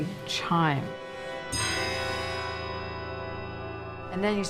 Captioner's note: bell chimes